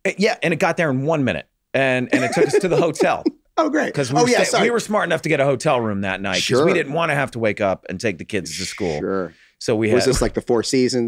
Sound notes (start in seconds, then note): 2.1 Rob chuckles